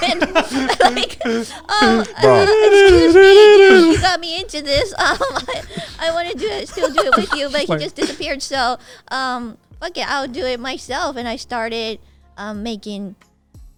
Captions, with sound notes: (humming Twilight Zone theme song) He got me into this, I want to still do it with you but he just disappeared. So fuck it, I'll do it myself and I started making movies.